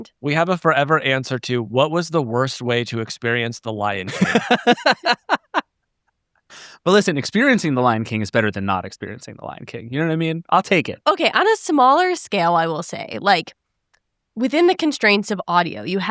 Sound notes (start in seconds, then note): 4.5 laughing